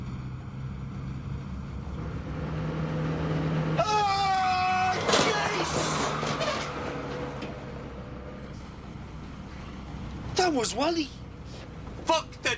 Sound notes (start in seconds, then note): 2.8 Gritando